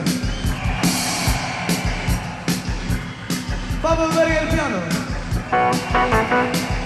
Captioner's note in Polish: Aplauz